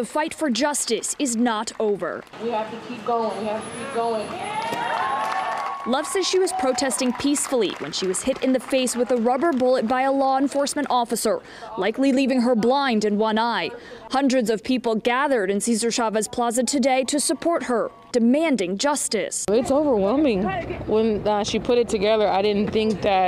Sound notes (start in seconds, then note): 6.4 applause